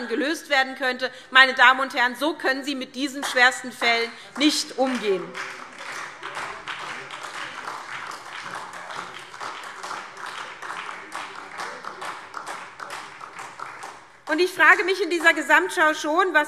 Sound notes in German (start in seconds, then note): 5.6 Beifall SPD